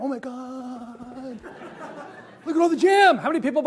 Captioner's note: audience laughs